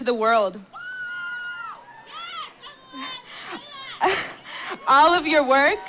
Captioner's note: cheering